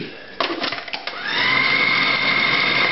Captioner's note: whirring